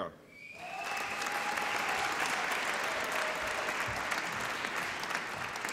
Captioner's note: applause and cheering